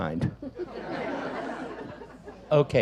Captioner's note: audience laughs